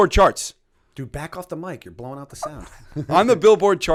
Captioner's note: chuckle